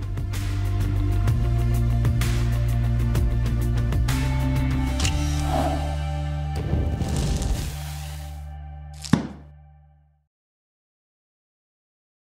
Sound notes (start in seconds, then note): 0.2 mellow guitar music; 6.6 fire roaring; 8.9 book closing